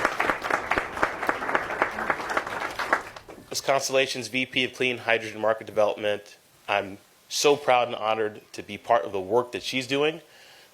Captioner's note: applause